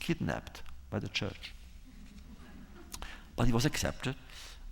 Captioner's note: laughter